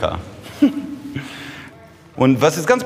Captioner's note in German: Er lacht